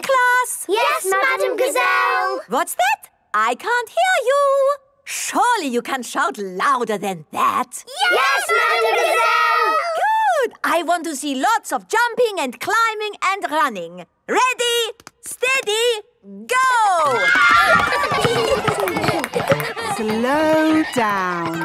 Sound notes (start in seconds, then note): 17.0 kids screaming; 17.6 laughter